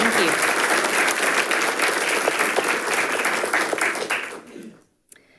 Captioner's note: audience applauding